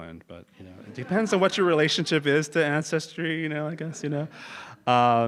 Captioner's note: laugh